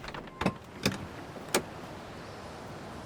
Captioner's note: opening door